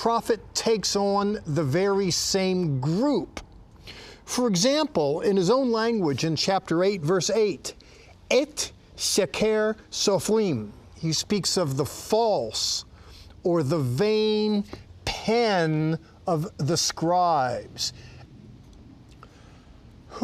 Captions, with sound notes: Jeremiah, the prophet takes on the very same group.F8 [speaking in Hebrew] He speaks of the false or "The vain pen of the scribes."